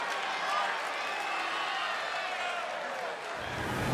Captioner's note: crowd cheering